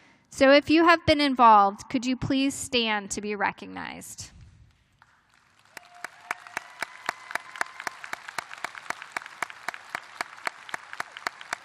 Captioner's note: applause